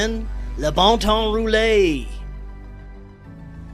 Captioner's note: French language